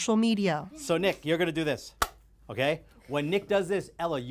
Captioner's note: clapper claps